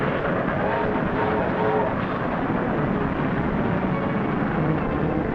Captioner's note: train horn toots